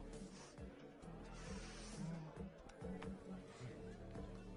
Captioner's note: sniffing; prolonged sniff